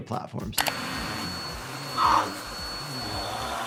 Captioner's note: vacuum whirring